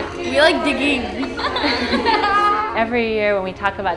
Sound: laughing

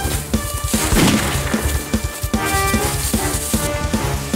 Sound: keys jingling; gun shot firing

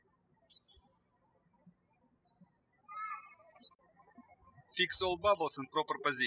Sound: birds chirping

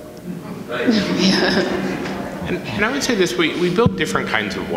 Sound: audience laughs

